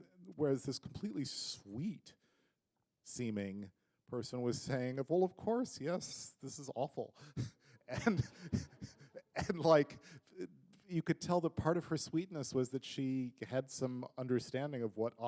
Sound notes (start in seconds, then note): 7.8 chuckle